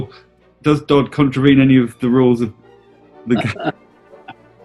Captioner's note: chuckling